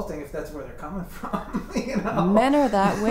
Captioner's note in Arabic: يضحك